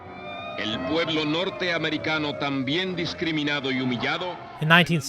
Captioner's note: speaking spanish